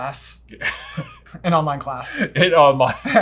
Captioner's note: laughing